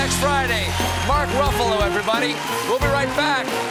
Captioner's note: applause; cheers and applause